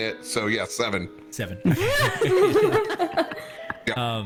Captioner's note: all laugh